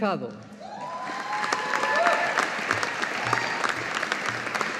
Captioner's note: audience applauding